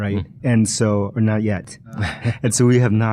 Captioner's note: laughs